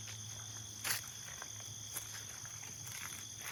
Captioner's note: steps on the grass